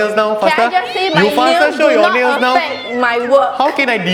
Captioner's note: arguing